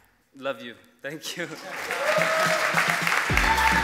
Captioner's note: applause